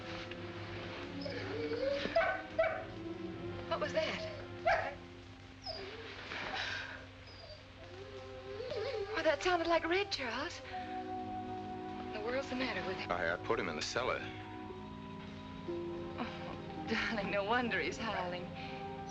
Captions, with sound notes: [ RED YELPING AND WHIMPERING ] What was that? [ RED YELPING ] That sounded like Red, Charles. What in the world's the matter with him? I had to put him in the cellar. Oh, darling, no wonder he's howling.